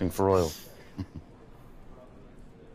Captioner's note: chuckles